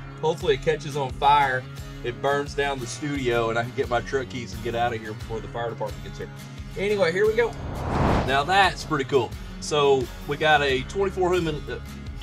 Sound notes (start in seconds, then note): 7.4 flames igniting